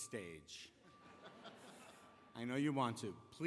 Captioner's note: laughter